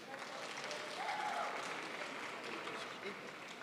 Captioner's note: crowd applauds